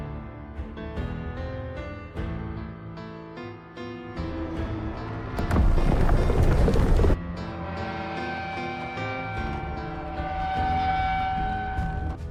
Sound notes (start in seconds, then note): 4.2 rumble, rumble, rumble; 7.0 creak